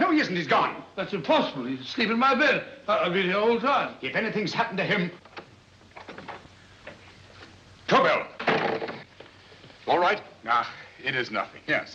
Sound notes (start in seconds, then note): 0.0 stammering; 5.9 door opens; 8.3 door closes